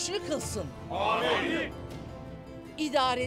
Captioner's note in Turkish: Hep bir ağızdan